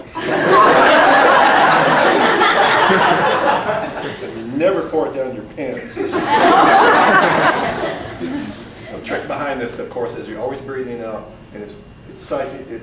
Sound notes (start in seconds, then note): 0.0 lots and lots of laughter from the audience; 6.0 more loud laughter